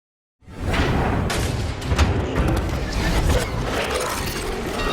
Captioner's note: industrial booming